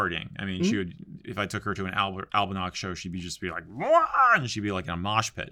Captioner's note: yells in excitement